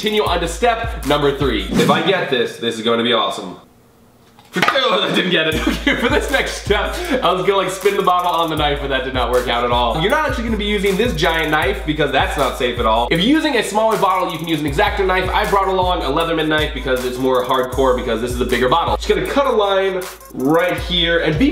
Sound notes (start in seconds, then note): 5.5 laughs